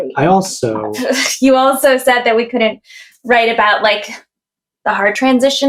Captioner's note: laughs